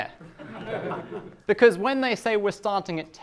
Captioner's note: class laughs